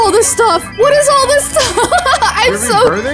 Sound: laughs

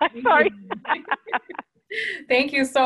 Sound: laughing

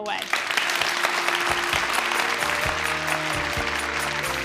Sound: applauding; bright music

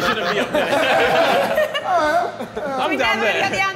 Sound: all laughing

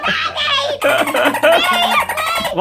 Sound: laughing

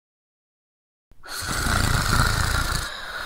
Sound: snoring

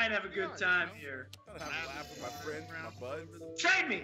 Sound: laugh

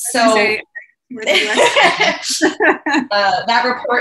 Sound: laughing

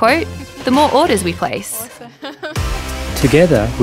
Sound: laughs

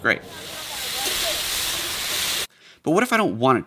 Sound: food frying

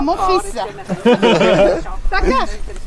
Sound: laughes

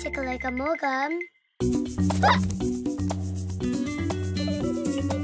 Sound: Roly giggles

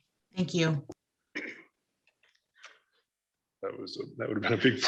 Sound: clears throat

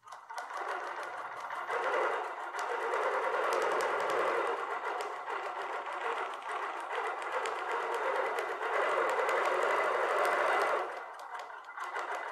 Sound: sewing machine whirring

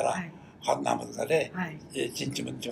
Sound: foreign language

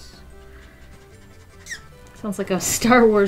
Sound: marker squeaks

